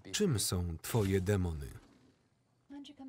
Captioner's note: door sliding